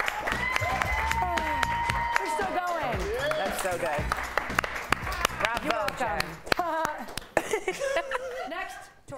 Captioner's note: cheering